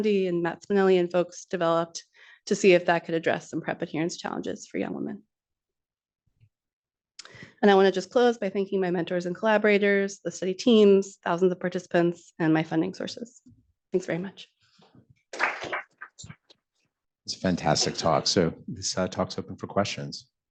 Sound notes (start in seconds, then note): 15.3 applause